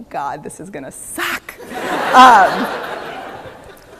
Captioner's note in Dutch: Gelach